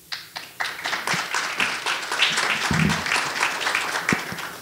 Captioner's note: audience applauding